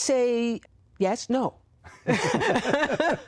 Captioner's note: laughter